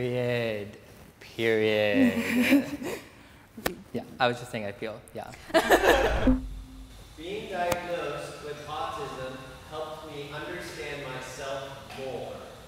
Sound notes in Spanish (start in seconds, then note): 5.4 Risas